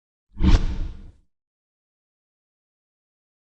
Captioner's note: swishing